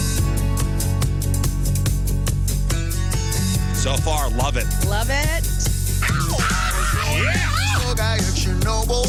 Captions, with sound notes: So far, love it. Love it. (Screaming) Look, I heard you're noble